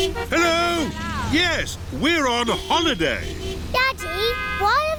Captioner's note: horns honking